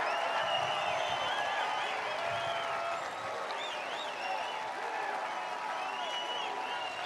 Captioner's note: applause